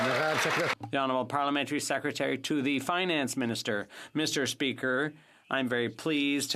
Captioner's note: some Applause